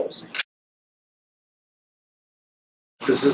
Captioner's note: silence